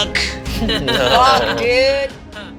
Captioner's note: all laugh